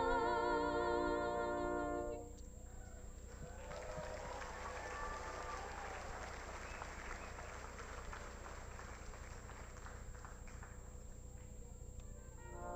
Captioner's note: applause